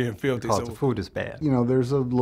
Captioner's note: voiceover